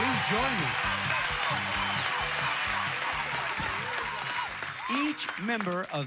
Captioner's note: audience applauding